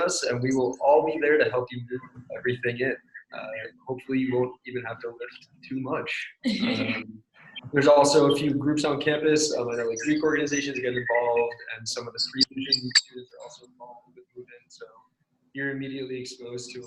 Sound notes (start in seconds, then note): 6.6 laughs